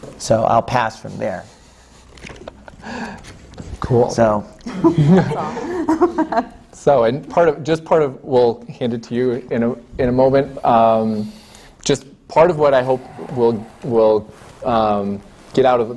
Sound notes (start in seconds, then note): 4.6 laughter